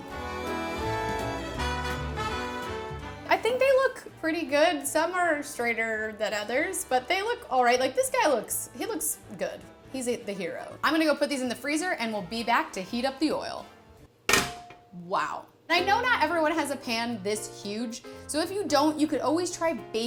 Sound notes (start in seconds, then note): 0.0 upbeat music; 14.3 pan clangs